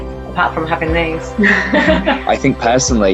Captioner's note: laughs